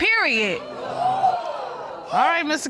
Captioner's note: audience exclaims